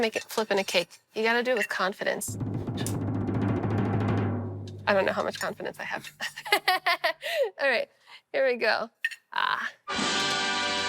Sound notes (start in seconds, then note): 2.2 drum roll; 6.2 laughs; 9.9 triumphant music